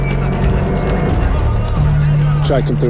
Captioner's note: indistinct chattering